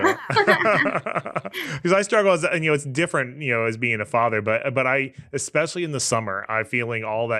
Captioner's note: both Laughing